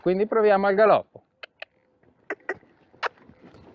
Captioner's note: cluck